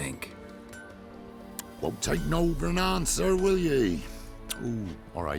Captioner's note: tsk; smacks lips